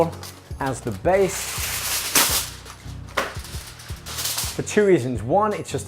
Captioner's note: crinkling